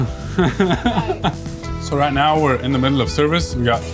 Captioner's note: laughs